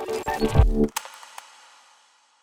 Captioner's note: click